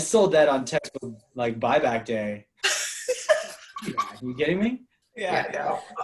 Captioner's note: laughter